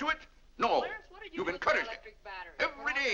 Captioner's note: children bickering